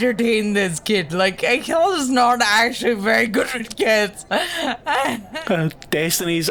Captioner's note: laughs